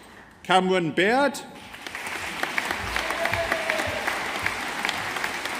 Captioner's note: audience applauding